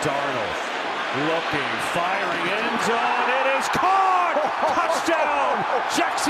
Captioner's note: Tom chuckling